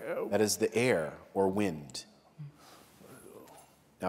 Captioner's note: none